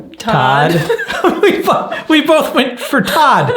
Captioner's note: laughs